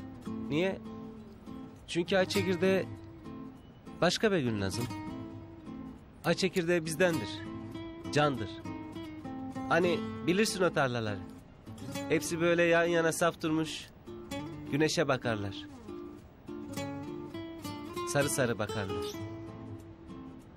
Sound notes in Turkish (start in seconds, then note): none